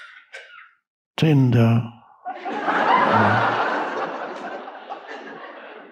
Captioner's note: audience laughing